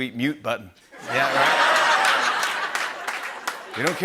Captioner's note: laughter and applause